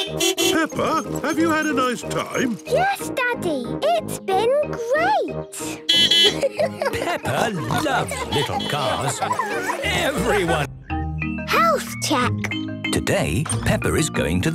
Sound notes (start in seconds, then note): 5.9 beeping and laughing; 8.4 beeping; 9.8 laughter